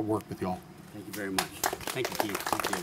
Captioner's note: applause